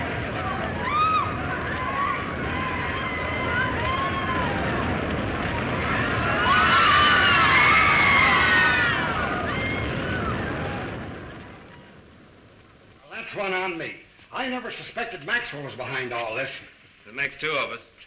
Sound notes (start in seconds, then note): 7.9 inmates screaming